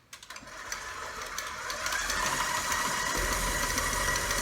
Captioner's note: mixer buzzing